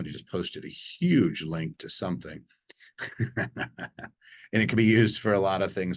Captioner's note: chuckling